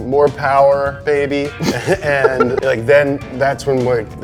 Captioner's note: giggles